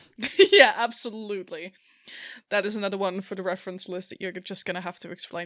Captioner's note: laughing